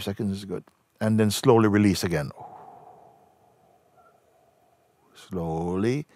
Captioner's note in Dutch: ademt langzaam uit